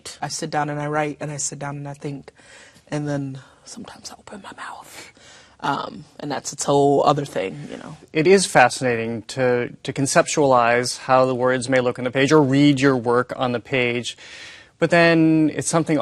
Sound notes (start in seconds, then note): 2.9 whispering